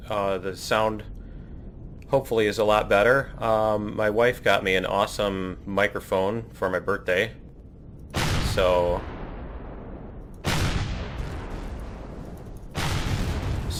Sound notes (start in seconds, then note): 8.7 plasma firing; 9.8 explosion